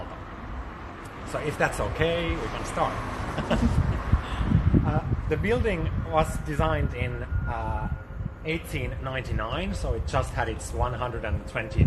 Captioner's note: laughs